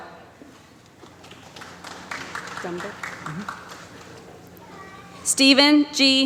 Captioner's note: applause